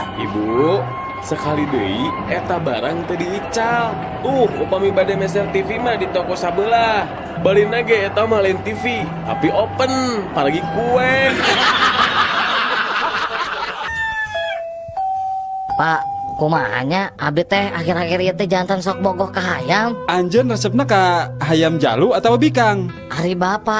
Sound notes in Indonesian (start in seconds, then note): 11.2 tertawa